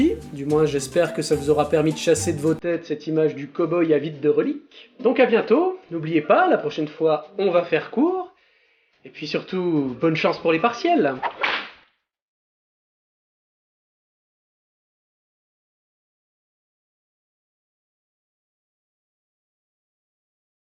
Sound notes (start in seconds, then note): 11.2 whip sound